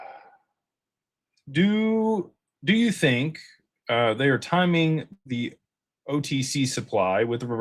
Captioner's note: sighs